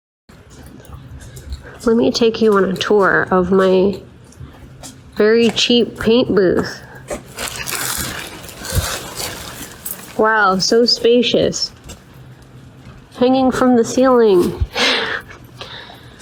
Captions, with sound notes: Let me take you on a tour of my very cheap paint booth! *plastic rustling* Wow so spacious! /s Hanging from the ceiling! *laughs*